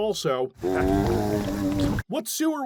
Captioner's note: zombie groan